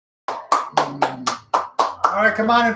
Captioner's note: clapping